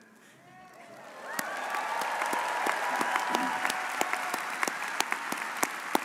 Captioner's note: audience cheering and applauding